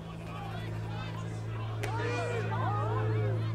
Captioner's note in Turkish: Hep bir ağızdan